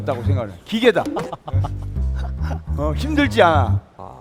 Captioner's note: laughing at his extreme coaching